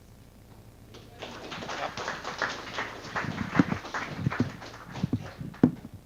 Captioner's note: audience applause